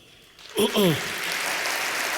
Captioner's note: applause; clears throat